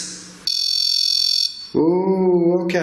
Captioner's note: REM-POD beeping